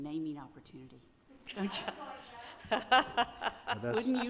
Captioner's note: audience laughing